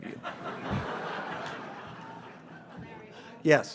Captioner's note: audience laughs